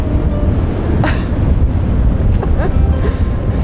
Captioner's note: laughs